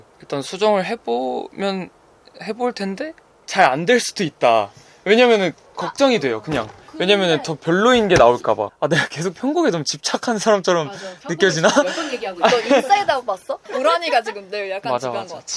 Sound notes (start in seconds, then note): 11.2 haha